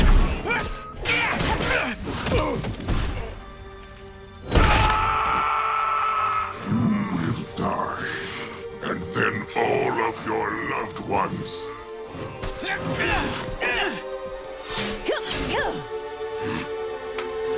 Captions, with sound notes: [grunting] [crunching, screaming] You will die. And then all of your loved ones. [grunting]